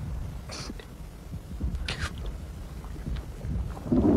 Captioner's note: sniffling